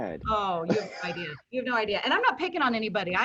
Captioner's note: laughing